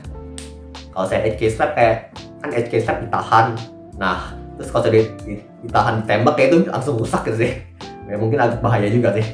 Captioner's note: slapping